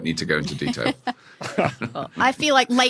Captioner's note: chuckle